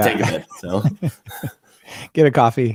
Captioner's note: laughing